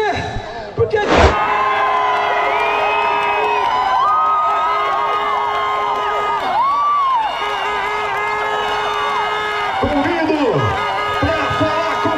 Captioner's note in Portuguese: Gritos de alegria